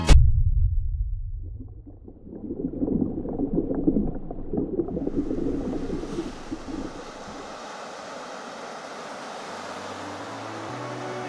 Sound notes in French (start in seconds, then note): 2.4 Bruit d'eau; 4.9 Bruit des vagues